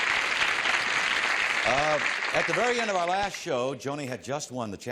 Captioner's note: applause